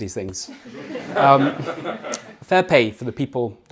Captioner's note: audience laughing